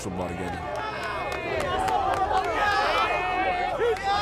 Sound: players cheering

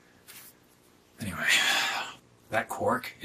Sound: sighs

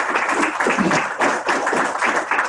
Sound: applause

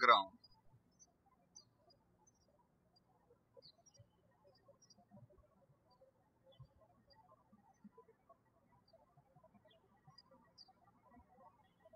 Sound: birds chirping

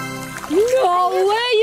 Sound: water splashing

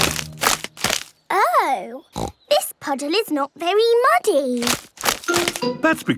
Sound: snorting

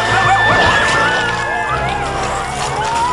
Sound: coyotes howling and growling

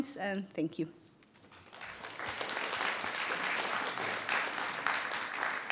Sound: audience applauding

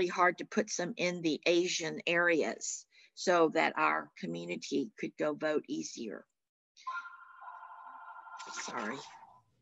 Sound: phone rings

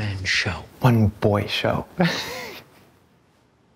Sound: laughs

